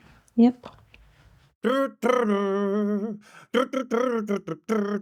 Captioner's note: humming